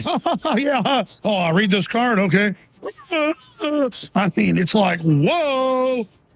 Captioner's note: fake crying